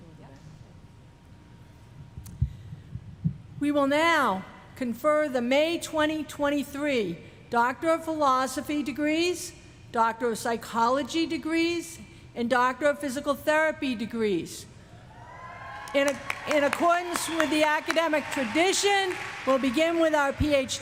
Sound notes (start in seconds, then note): 11.0 applause